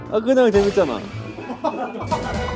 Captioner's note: giggling